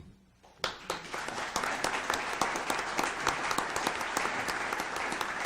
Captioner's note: audience applauds